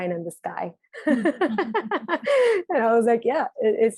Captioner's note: laughing